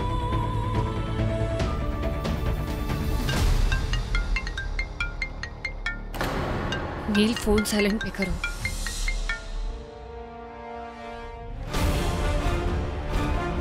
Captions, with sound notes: (phone rings) Neel, keep your phone on silent. (pensive music playing)